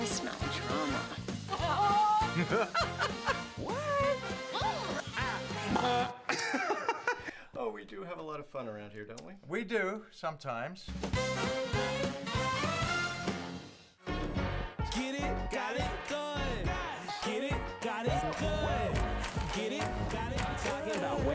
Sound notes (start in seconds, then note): 1.4 laughing; 6.1 mimics horn; 6.9 laughing